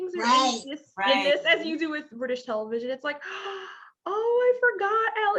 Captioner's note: gasps